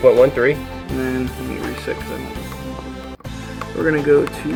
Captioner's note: voiceover